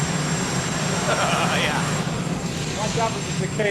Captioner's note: laughing